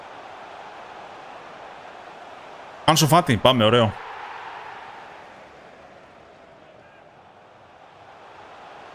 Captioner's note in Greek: χειροκρότημα